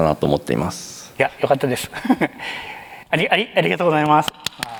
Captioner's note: chuckles